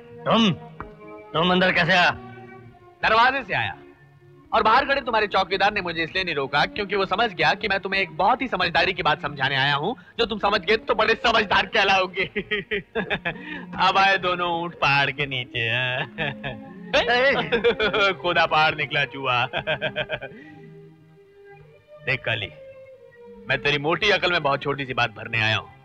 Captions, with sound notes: You? How did you come in? - I came through the door. And the guard outside didn't stop me.. ..because he understood that I have come to make you.. ..understand something very sensible. Which you will understand. [Laughing] Both the camels are beneath the mountain now. I dug the mountain and found a rat. Kali. I have come to tell something small to your big brain.